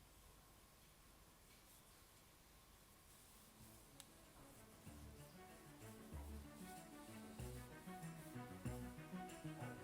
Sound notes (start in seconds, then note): 1.4 lively music; 1.4 rubbing sound